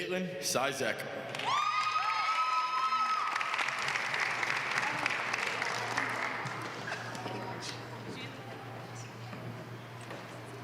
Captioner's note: applause